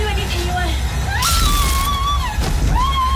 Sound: electric sizzle; screeching cries

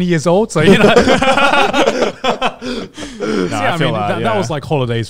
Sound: all laughing

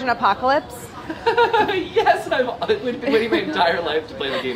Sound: laughs

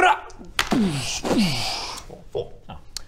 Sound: boosh boooosh

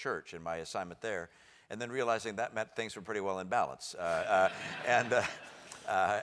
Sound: laugh

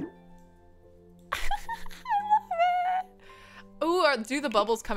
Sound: giggles

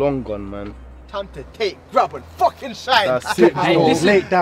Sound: laughing

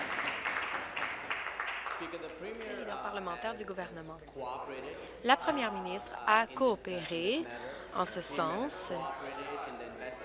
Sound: applause

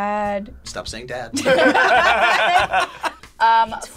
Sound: group laughs

